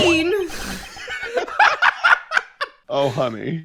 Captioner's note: laughter